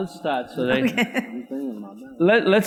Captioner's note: laughs